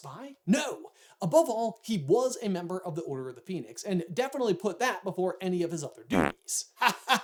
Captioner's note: fart